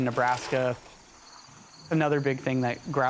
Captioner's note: insects chirping